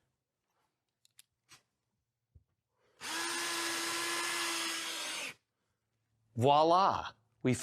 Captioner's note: drill whirring